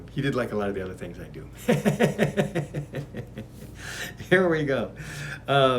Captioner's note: laughs